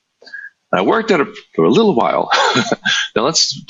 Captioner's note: chuckles